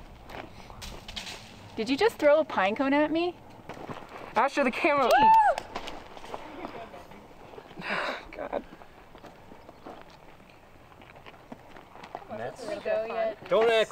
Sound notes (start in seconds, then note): 6.7 chattering; 7.7 sighs